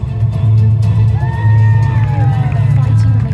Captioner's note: applause